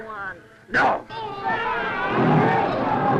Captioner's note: all screaming; lion growling